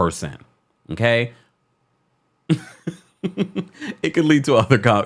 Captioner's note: nonchalant chuckling